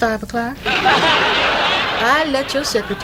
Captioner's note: audience laughs